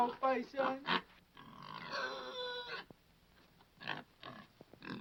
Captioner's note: Paisan squeals